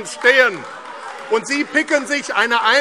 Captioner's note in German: Beifall AfD - Fortgesetzte Zurufe